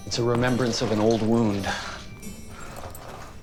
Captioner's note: calm music playing; birds chirping